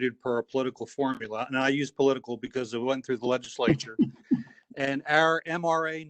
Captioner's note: laughter